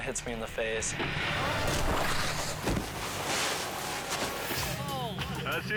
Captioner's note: thudding